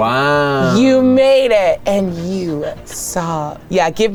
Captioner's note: sobbing